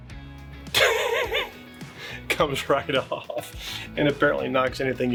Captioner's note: laughs